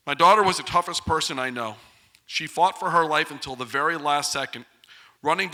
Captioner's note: none